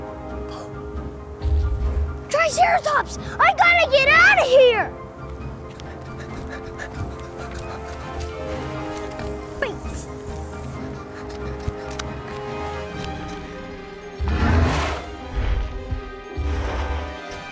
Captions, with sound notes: Triceratops! I gotta get outta here! (pants frantically) (dinosaur grunts)